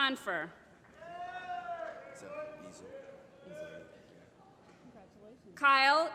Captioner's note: applause